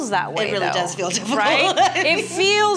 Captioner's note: laughs